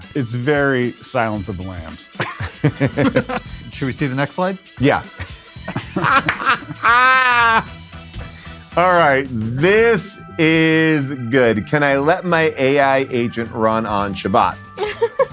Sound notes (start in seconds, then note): 2.1 laugh; 5.0 laughs